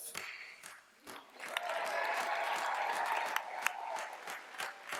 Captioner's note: cheers, applause